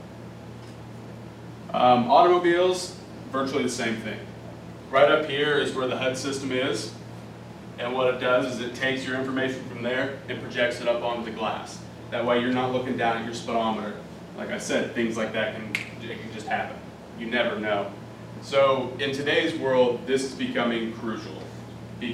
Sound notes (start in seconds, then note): 15.7 snap